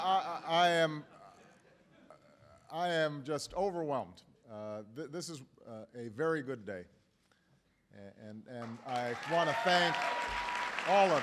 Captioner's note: laughter; applause